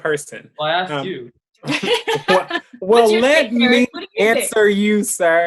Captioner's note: laughs